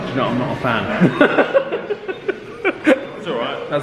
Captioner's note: all laughing